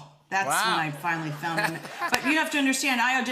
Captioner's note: laughter